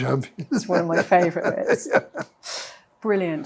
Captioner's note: laughs